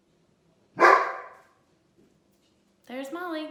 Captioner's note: bark